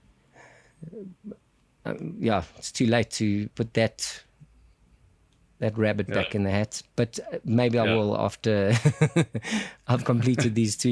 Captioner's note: laugh